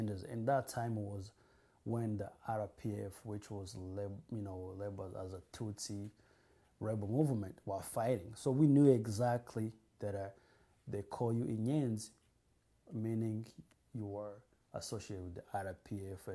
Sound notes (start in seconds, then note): 11.6 non-english